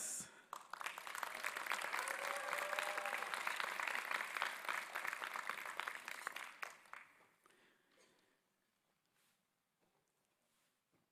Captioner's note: applause